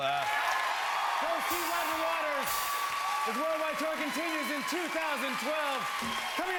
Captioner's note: cheers and applause